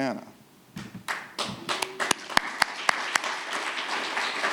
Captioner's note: audience applauding